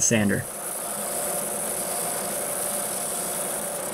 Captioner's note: machine whirs